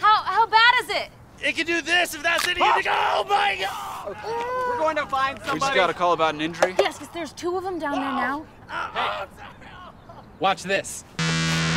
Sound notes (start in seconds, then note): 2.4 leg cracks; 3.6 muffled screaming